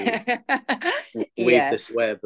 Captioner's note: laughs